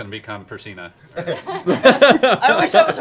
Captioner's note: laughter